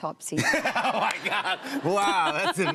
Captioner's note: laughter